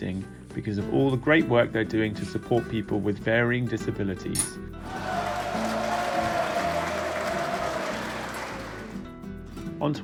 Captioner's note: sound of applause